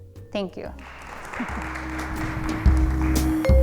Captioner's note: applause